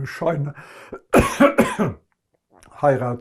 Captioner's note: coughing